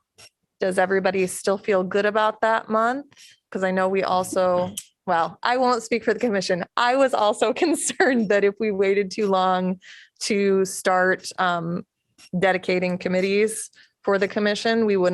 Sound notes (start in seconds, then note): 7.7 laughter